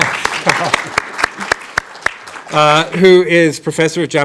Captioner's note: audience applauding